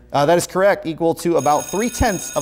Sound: buzzer sounds

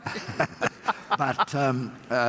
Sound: laughter

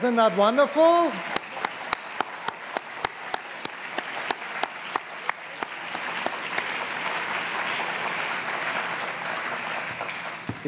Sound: applause unbroken

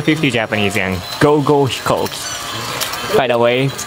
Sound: speaks in japanese

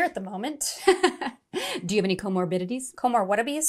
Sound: laughing

